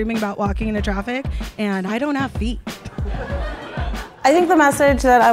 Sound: audience laughs

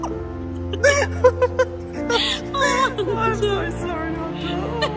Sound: laughing

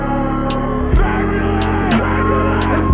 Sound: turbulence

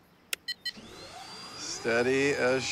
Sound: motor whirring, controller beeps

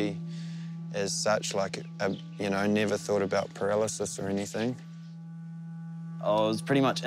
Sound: stammers

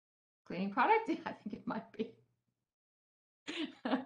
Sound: laughter

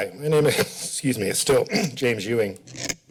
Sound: clears throat

